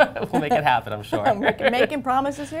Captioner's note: laughter